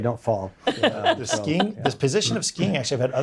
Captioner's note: laughing